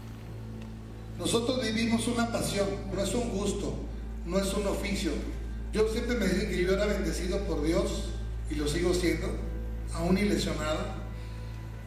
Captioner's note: Rey Misterio speaking Spanish